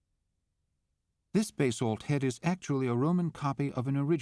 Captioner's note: voiceover